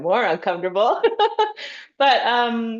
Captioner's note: laughs